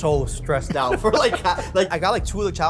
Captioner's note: laughs